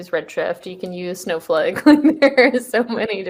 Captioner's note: laughs